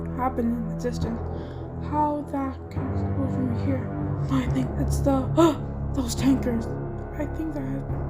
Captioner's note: gasp